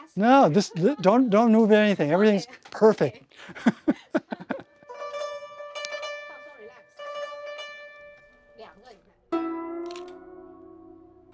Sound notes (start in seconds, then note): 9.8 shutter clicks